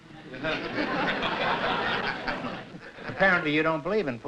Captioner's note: laughter